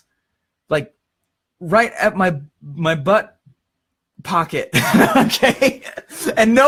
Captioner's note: laughs